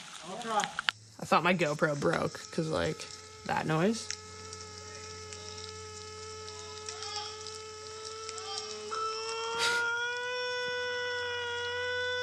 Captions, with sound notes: - I thought my go pro broke cause of like, that noise. [whirring] [moaning]